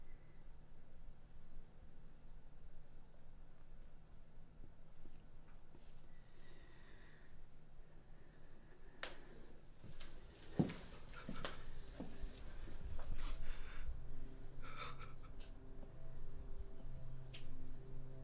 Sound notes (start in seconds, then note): 13.2 man crying softly; 13.8 soft dramatic music